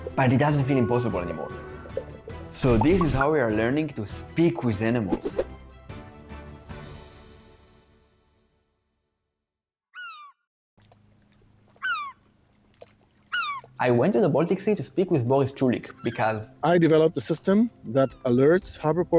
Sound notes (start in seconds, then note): 9.7 bird cawing